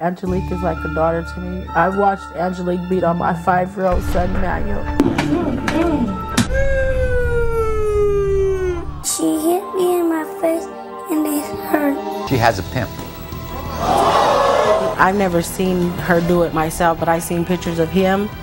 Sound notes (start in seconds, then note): 4.9 slapping; 6.5 crying; 13.6 audience screaming